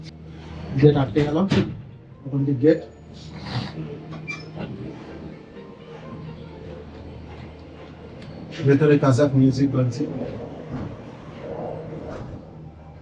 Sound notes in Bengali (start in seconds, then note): 3.2 নাক ডাকা